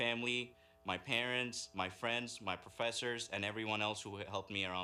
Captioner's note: speaking in native language